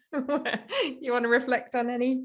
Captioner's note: chuckles